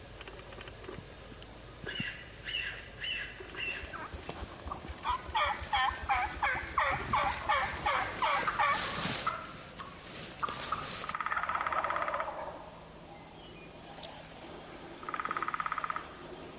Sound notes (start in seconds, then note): 1.9 birds chirping; 1.9 turkeys gobbling lightly